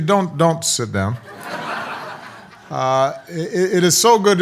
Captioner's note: audience laughs